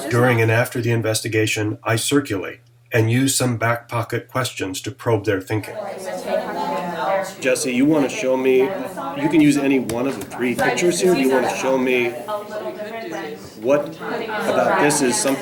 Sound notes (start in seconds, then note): 5.9 chatter